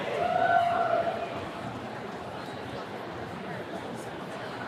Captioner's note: attendee cheering